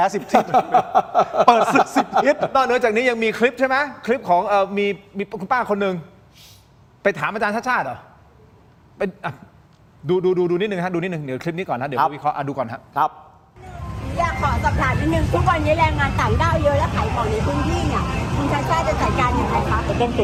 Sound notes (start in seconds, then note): 0.0 laughs; 6.3 takes a breath